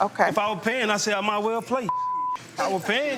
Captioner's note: beep